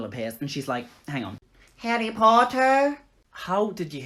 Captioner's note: As McGonagall